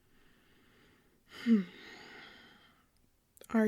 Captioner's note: exhale